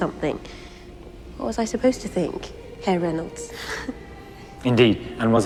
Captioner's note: laughs